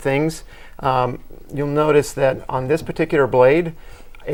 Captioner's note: laughing